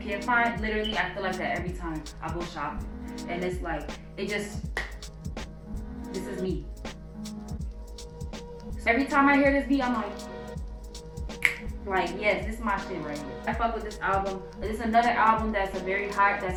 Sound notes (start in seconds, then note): 4.7 claps hands; 11.3 snaps fingers